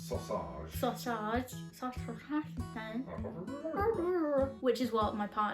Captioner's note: making funny noises